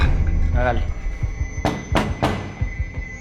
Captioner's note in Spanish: Toques en la puerta